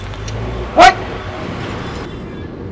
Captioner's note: scolds